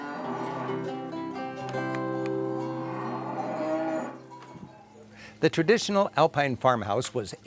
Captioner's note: cattle lowing